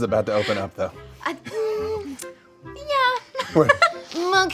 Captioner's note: laughs